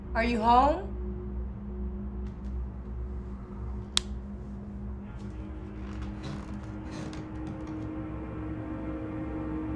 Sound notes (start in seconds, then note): 3.9 light switch; 5.4 ominous music